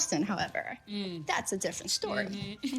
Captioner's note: chuckles